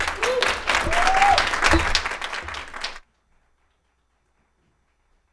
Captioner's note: audience clapping hands